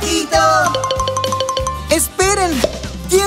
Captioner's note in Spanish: Sonido de campana